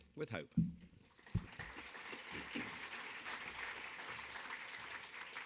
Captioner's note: audience applauding